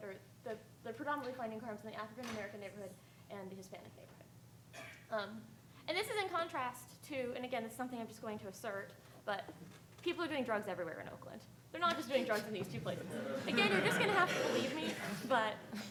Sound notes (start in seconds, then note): 12.8 audience laughing